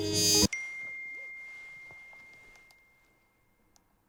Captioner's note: phone dings